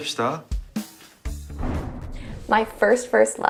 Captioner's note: upbeat music; air whooshing